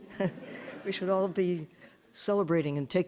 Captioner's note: audience laughing